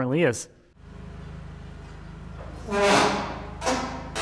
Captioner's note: engine purring; material creaking